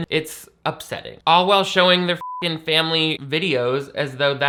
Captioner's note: beep